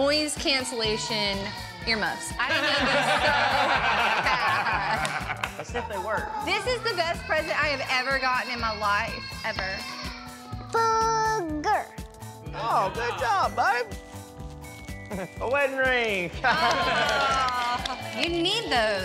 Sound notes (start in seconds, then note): 5.2 laughter